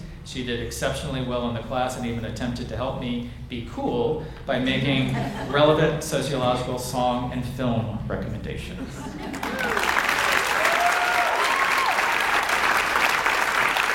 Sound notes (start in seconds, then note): 4.6 audience laughs; 9.3 audience cheers and applauds